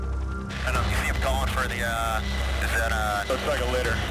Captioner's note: radio chatter